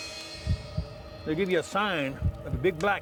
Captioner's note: heart beat